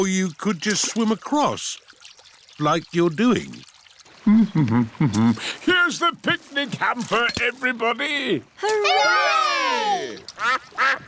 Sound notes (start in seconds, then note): 4.7 hums; 10.3 quacking